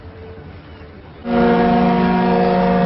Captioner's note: boat horn blowing